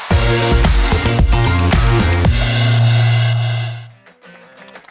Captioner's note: applause